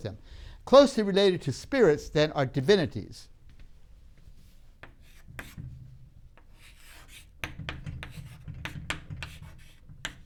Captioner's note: writing sounds